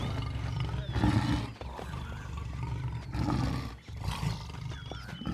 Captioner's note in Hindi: दहाड़